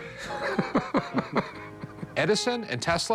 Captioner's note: laughter